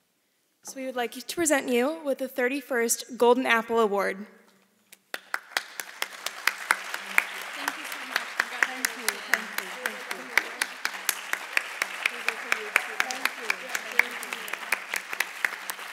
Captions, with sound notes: So we would like to present you with the 31st Golden Apple award. (audience applauding) - Thank you so much. - Thank you, thank you. (applauding continues)